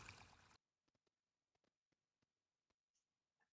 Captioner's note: water fades away